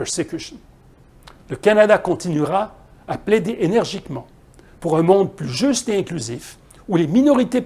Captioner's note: French